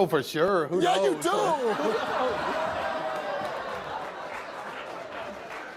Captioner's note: laughs